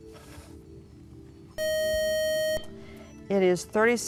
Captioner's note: loud buzzer